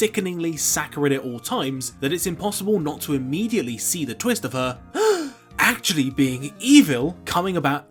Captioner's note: gasp